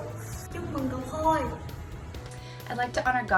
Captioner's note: speaking in foreign language